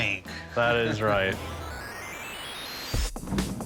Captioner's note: video game noises